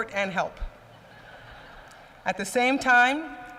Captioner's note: laughter